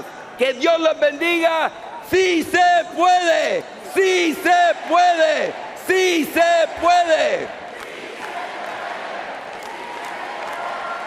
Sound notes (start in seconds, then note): 6.8 speaking Spanish